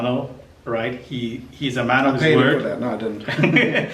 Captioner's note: laughing